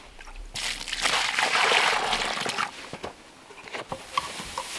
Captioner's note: water splashing